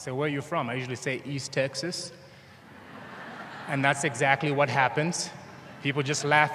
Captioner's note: laughter